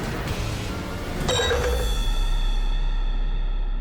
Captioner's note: clattering